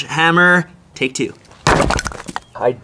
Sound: sledgehammer hits

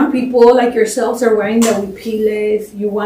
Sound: spanish

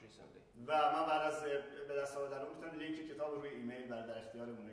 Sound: speaking in farsi

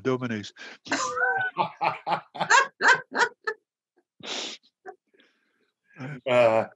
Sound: laughter

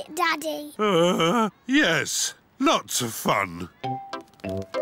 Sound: groans

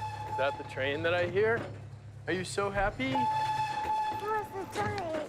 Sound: whistle blows

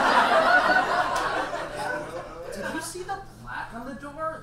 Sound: audience laughs

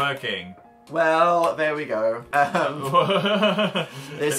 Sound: both laugh

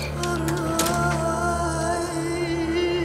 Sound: door closes

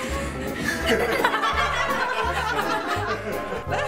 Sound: laughing

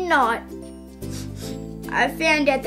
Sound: sniff, sniff

